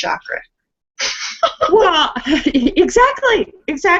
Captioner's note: laughs